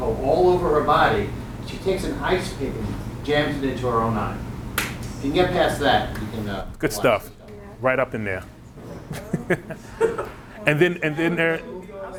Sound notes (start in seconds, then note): 4.8 claps; 8.8 laughing